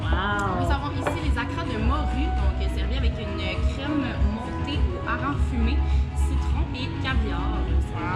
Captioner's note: speaking in French